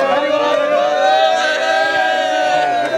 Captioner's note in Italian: Applauso